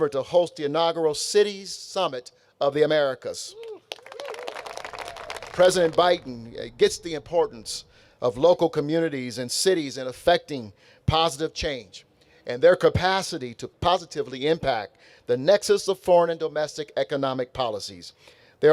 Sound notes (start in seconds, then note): 3.5 audience cheering; 3.6 audience applauding